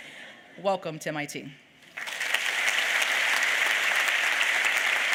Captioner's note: applause